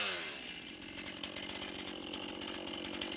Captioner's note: chainsaw noises